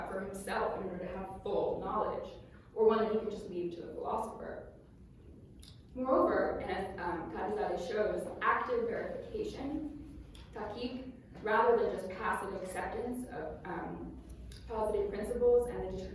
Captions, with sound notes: for himself in order to have full knowledge, or one that he can just leave to the philosopher. Moreover, as Qadi Zada shows, active verification, [NON-ENGLISH SPEECH], rather than just passive acceptance of posited principles--